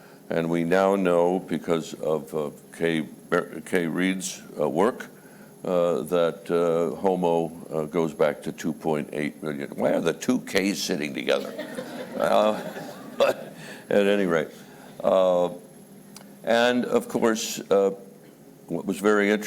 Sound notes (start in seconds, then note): 11.3 laughter